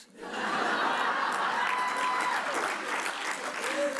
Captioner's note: audience laughs